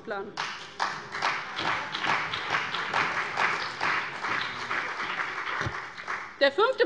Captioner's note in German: Beifall bei dem BÜNDNIS 90/DIE GRÜNEN und der CDU